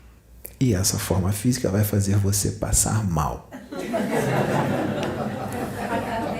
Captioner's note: laughs